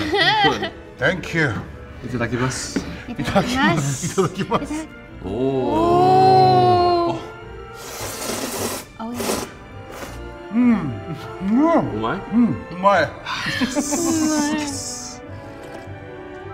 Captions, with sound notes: - All right, good. - Thank you. (speaking foreign language) (laughing) - Oooh. - Oooh. (slurping) - Mmm, yum. (speaking foreign language) - Yes!